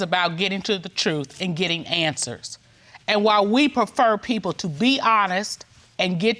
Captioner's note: none